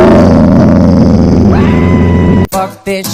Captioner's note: Loona Growls; Homer Scream